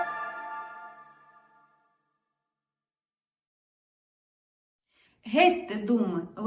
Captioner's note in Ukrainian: Тиша